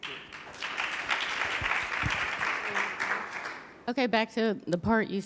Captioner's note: audience applauding